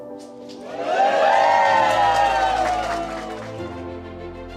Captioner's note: applause; rising Music